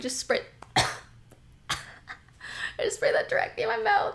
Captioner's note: coughs